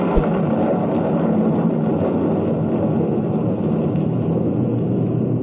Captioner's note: thunder